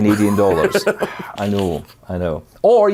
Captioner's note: laughing